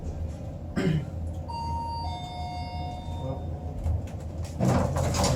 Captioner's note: chime